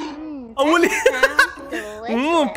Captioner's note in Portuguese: risos